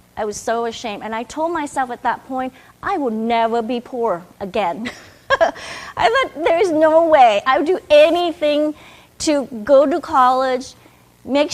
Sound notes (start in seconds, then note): 4.8 chuckles